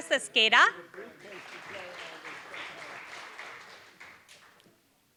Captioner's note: applause